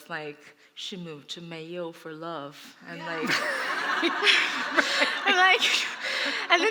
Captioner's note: laughter